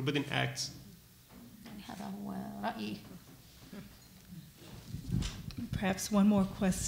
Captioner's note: speaking arabic